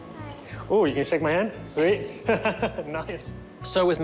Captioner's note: laughs